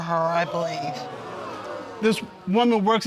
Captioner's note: audience exclaiming